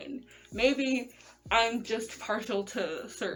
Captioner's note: none